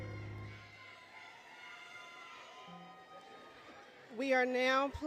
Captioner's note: applause, Cheering, Music; cheering